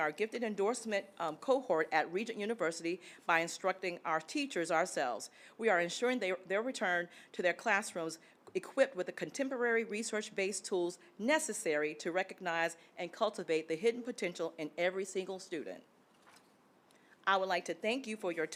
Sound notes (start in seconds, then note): none